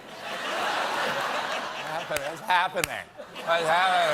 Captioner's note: laughter